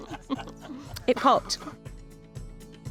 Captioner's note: chuckling; gentle uplifting music